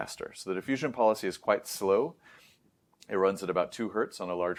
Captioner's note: inhales